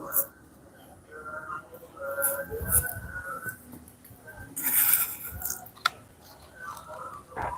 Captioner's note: glass Shards Shaken